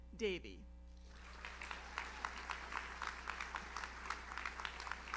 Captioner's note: audience applauds